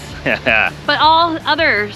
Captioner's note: chuckling